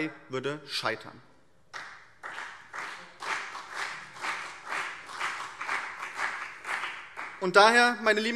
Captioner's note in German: Beifall BÜNDNIS 90/DIE GRÜNEN und CDU